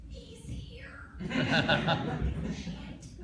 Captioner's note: laughter